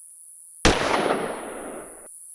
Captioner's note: gunshot